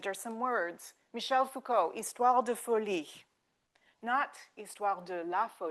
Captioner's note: speaking French